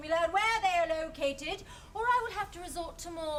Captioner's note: none